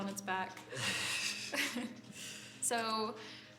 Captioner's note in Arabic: ضحكة خافتة